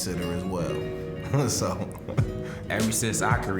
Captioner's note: chuckling